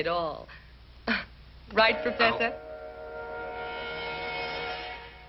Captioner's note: laughs; suspenseful music